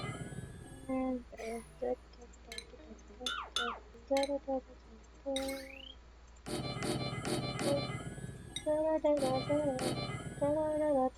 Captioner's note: humming; more humming